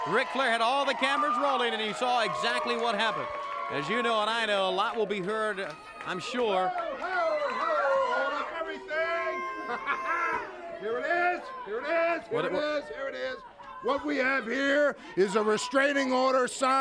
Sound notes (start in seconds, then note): 9.2 laughs